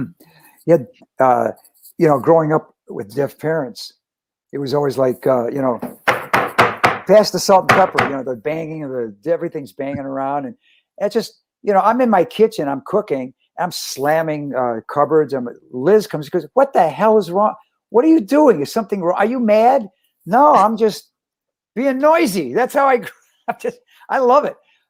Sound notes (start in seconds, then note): 5.8 bangs on the table